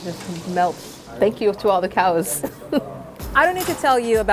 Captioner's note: laughs